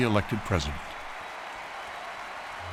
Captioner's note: cheering continues